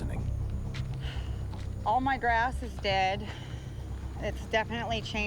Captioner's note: sighing